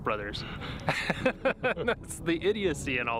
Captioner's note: Gülme